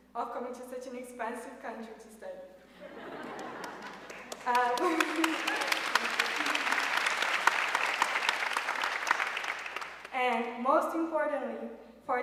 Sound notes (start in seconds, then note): 3.3 audience cheering and applauding